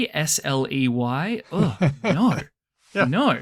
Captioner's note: laughs